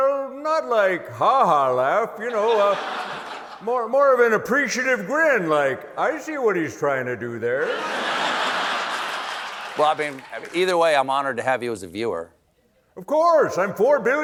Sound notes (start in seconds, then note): 7.6 laughter